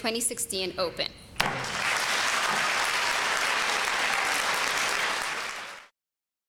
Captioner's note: applause